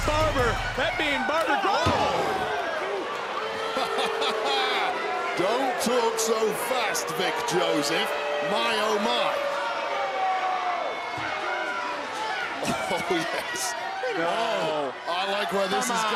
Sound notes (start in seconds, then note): 2.4 crowd boos; 3.7 laughs; 9.3 crowd boos